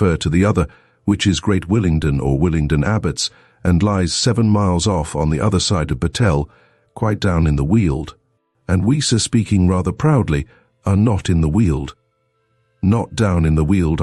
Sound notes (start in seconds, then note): 9.4 speaking rather proudly